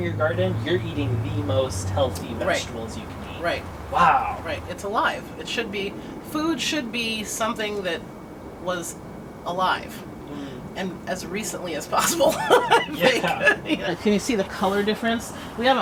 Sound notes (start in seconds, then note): 12.0 laughter